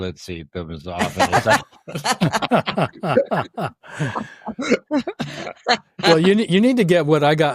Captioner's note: laughter